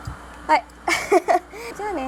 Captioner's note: laughs